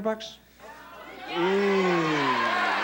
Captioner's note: audience chatter